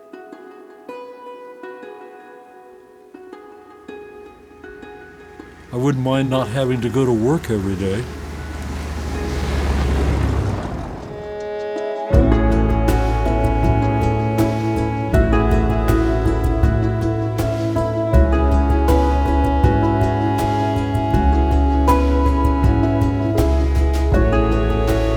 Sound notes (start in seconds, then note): 0.1 gentle music; 8.3 engine hums; 11.2 gentle upbeat music